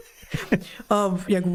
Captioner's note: laughing